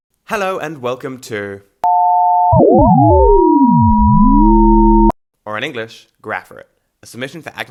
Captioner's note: series of strange tones